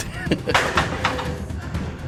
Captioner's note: laughter